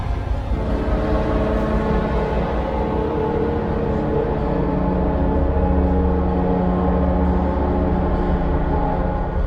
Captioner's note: ghostly train horn returns